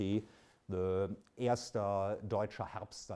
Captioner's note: speaks in German